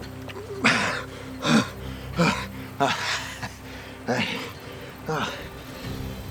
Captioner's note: gasping